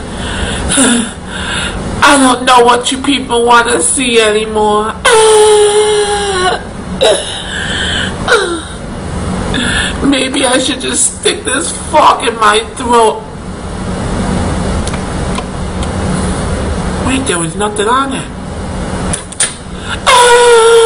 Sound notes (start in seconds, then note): 0.2 sighs; 7.1 moans; 19.8 moans